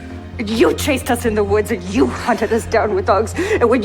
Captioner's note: shouting